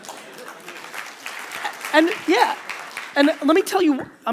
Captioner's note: audience applause